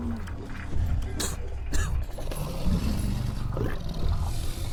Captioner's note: Lock coughs